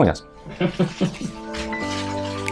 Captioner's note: laughs in Lithuanian